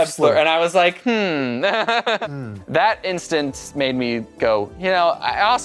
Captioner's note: laughs